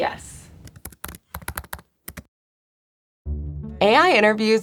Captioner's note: keyboard clacking